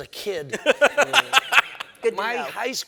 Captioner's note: laughing